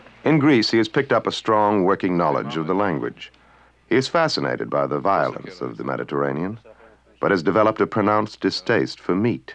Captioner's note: speaking greek